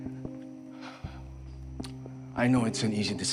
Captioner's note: stirring music playing; rafael exhales sharply